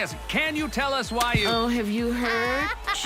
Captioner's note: laughing